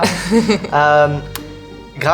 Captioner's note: she laughs